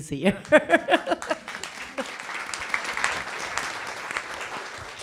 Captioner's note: applauding